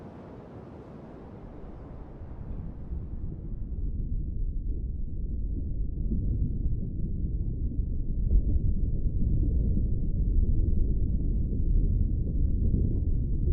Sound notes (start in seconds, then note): 3.2 under water sounds